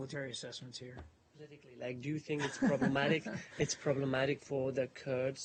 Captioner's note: laughter